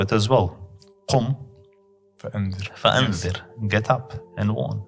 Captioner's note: Arabic